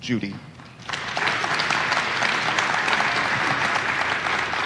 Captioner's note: audience applauding